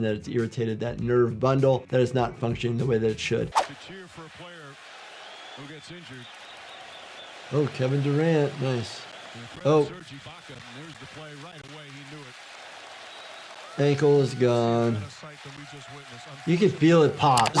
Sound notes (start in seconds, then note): 3.5 audio whooshes; 6.8 crowd roars